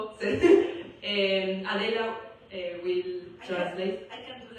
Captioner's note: laughs